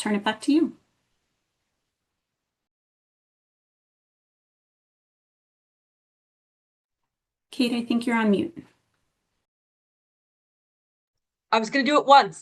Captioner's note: pause